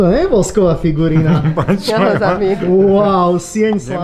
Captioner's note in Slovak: smiech